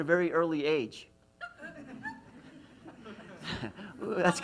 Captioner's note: laughs